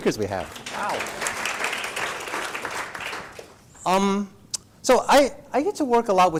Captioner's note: applause